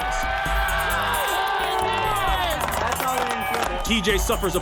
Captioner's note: cheers and applause